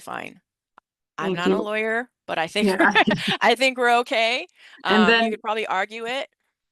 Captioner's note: laughs